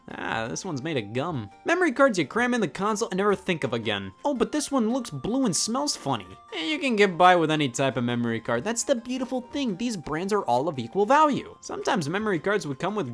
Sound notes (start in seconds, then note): none